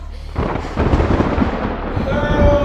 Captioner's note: thunder rumbling